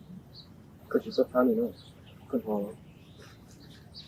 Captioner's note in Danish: hvisker